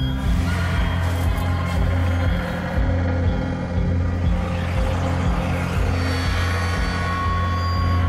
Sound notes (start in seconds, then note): 0.8 people shouting eerily